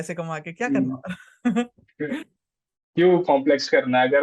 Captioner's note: laughs